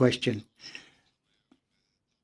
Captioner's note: speaking French